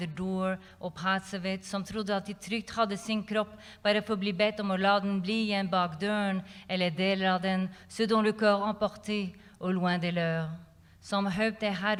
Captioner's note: non-english speech